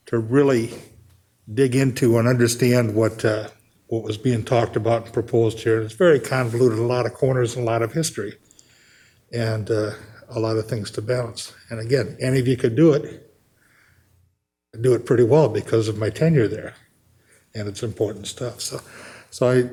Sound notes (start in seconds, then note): none